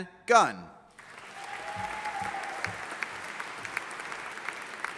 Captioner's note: audience applauding